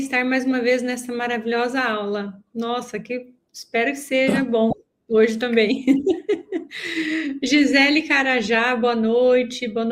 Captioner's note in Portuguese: risadas